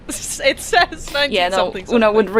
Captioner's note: laughs